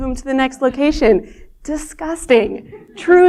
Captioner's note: laughter